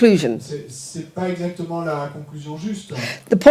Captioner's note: speaking in French